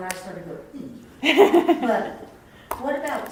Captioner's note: laughs